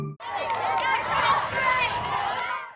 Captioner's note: children chattering